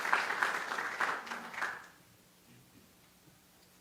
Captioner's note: applause